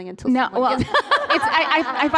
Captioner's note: laughter